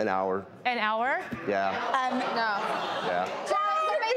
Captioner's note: audience chattering